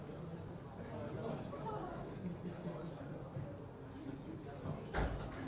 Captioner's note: audience chattering